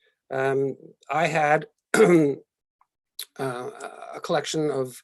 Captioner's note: clears throat